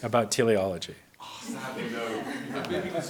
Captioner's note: audience laughs